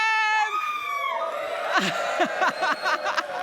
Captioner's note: cheering